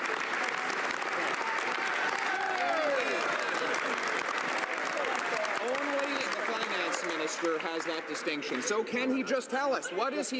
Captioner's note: some Applause